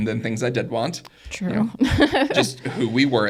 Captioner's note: laughs